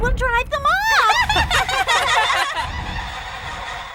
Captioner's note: all laughing; laughter echoing